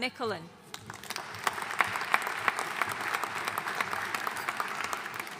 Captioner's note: audience applauding